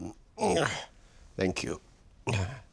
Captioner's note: grunting